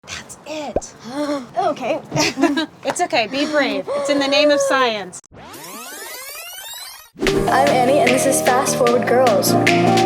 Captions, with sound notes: That's it. Okay. It's okay, be brave, it's in the name of science. (High pitched rewind) 'm Annie, and this is Fast Forward Girls.